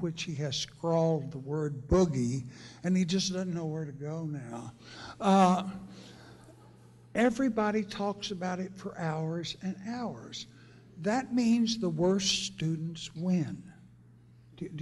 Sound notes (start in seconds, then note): 6.4 laughter